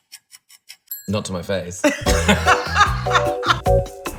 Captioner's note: laughter